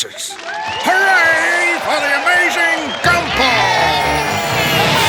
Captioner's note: audience cheering